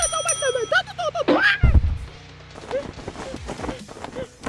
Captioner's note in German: Glockenschlag; überraschter schrei